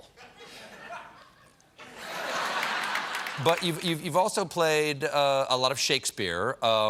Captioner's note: laughter